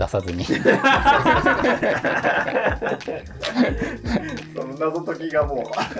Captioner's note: laughing